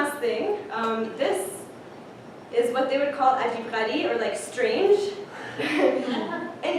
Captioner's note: non-english